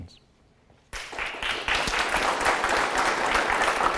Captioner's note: audience applauds